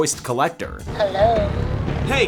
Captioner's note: woman on phone